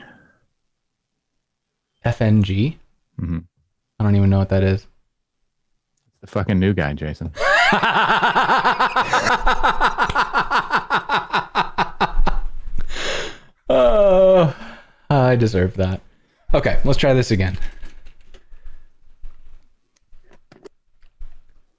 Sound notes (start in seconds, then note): 11.2 laughter